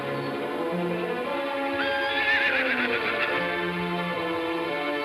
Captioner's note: horse neighs